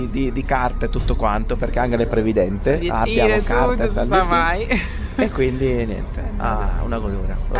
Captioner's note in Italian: risate